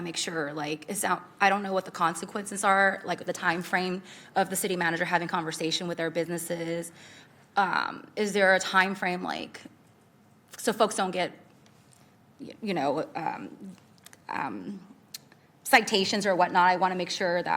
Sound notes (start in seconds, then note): none